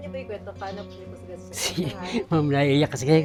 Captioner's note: chuckles